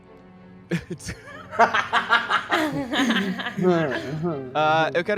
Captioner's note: laughs